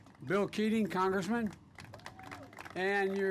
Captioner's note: applause